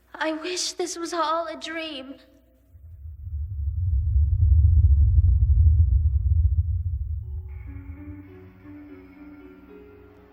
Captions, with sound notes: I wish this was all a dream. (low rumbling ambiance) (eerie piano)